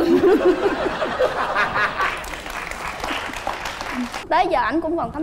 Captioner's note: laughing and applause